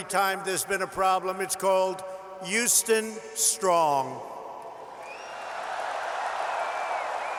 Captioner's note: applause